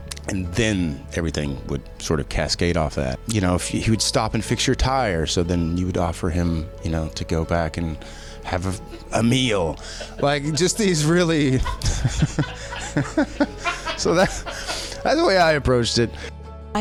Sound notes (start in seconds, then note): 13.0 laughs